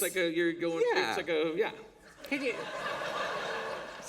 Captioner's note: laughter